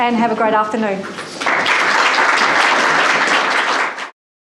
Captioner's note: audience applause